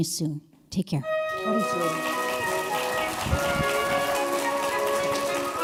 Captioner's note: applause